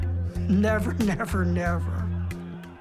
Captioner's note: laughing